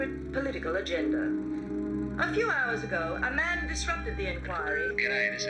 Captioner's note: machine beeps